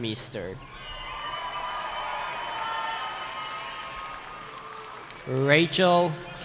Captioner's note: cheering